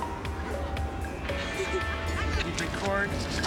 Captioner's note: laughter